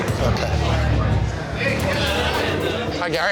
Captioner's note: crowd chatter